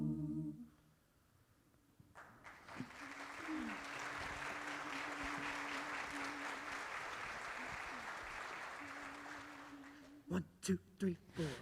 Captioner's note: applause